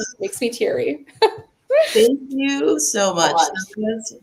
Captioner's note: laughs